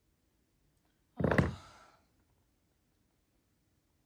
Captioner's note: sigh